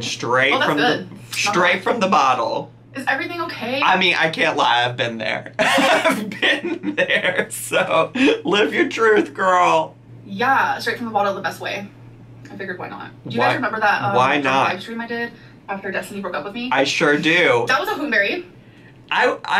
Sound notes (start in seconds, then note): 5.6 laughing